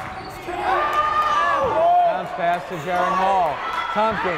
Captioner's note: yelling